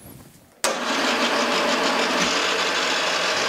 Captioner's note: engine hum